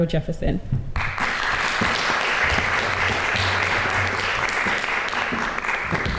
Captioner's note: applause